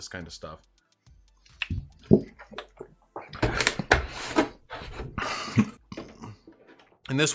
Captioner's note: rehydration and plastic jug noises